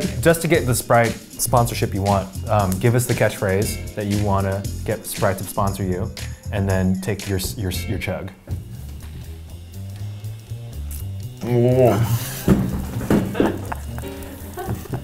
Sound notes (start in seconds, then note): 11.0 mumbles; 12.3 laughs